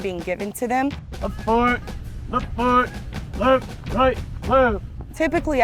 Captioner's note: MTI chanting